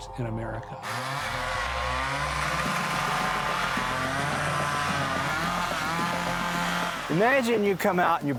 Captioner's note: chainsaw cutting